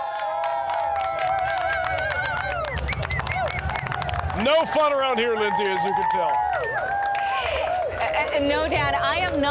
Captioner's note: cheering